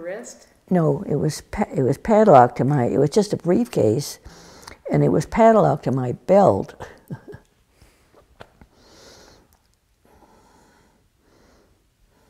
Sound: laughs

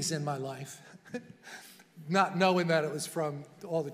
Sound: chuckling

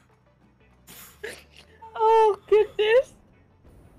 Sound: sniffle

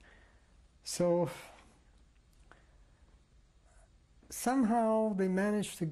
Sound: pauses for 3 seconds

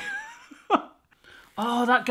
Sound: chuckling

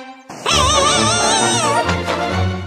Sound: screams

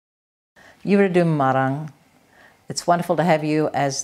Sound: non-english speech

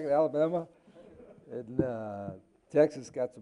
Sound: crowd laughing

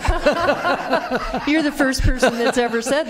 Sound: laughter

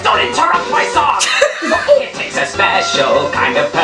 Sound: laughs

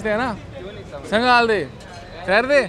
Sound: in Pashto

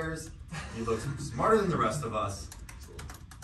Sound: laughing

